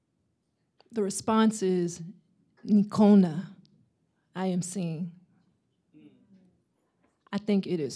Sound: swahili

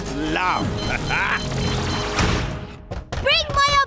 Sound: beeping; pounding

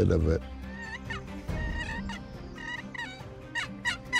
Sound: turkey call

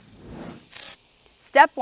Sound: screen whooshing

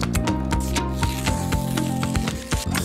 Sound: paper ripping; milk frothing

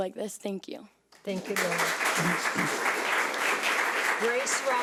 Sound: audience clapping

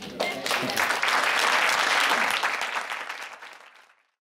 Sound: audience applauds

